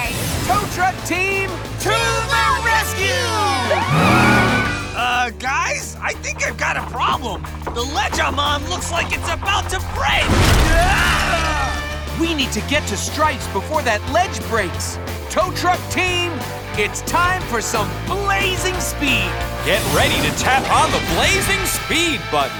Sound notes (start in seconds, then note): 10.7 screaming